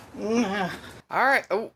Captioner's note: nngghh